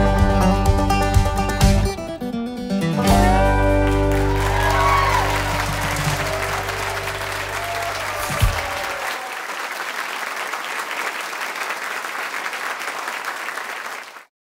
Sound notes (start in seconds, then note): 4.2 cheers and applause